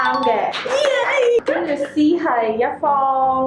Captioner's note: cheers and applauses!!